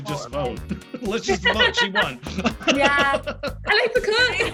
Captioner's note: laughs